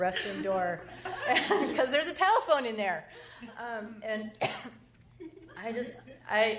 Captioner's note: laughs